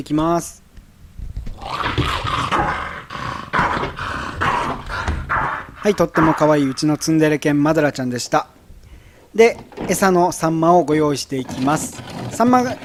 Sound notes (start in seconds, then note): 1.5 growling